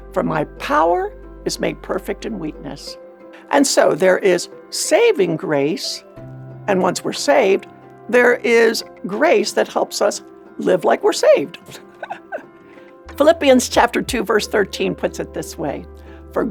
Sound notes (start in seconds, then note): 11.6 laughs